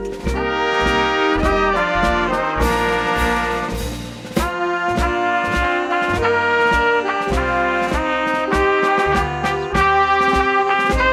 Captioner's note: applause